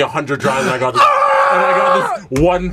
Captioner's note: hype screams